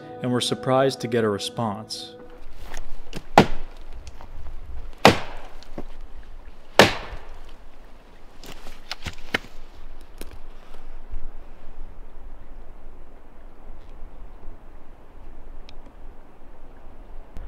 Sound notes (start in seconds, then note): 3.4 wood knocking